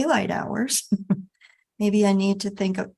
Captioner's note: person chuckling